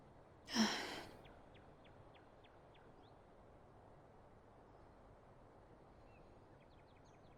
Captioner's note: birds chirping